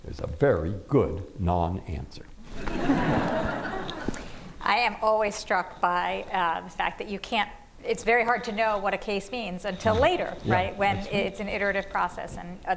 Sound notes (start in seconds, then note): 2.5 laughter